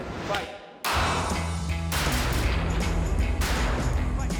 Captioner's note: gunshots